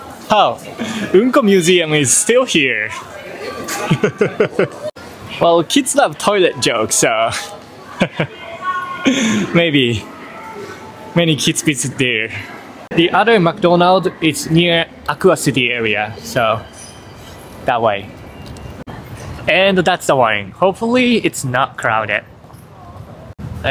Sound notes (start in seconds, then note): 3.1 laughs; 7.8 chuckles